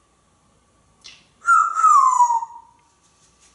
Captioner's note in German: whistling